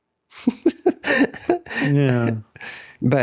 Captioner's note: both laughing